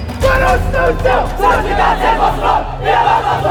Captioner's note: shouting